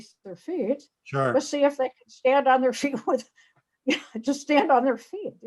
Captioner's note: laughs